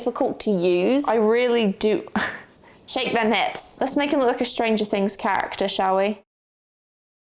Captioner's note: laughs